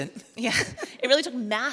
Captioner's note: both chuckle